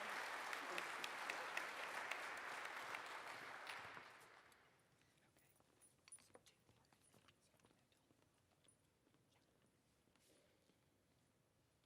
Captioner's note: applause